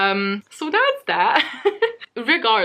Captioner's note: laughs